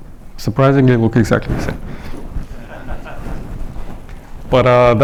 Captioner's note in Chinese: 观众大笑